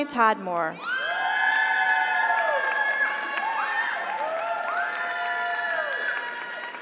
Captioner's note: audience cheers; audience applauds